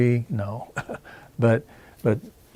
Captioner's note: chuckles